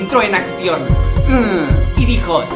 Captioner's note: uhhh